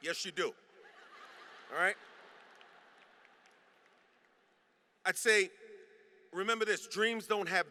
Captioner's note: laughter